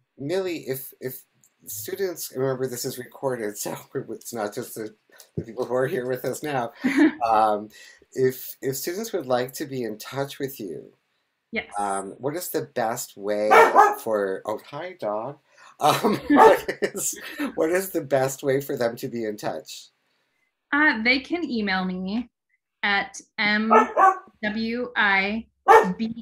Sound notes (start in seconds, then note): 13.5 dog barking; 15.8 laughing